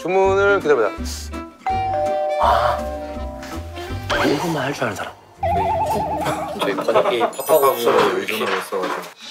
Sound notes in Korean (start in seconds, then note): 1.7 띵-동